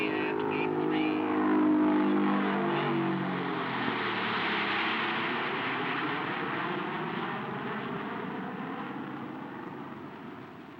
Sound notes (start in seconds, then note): 4.4 car engine roaring; 4.4 plane engine roaring